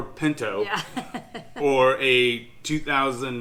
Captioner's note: laughing